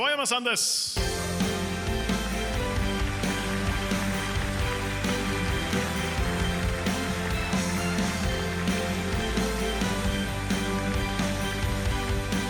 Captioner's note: applause